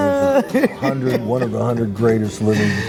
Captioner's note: laughing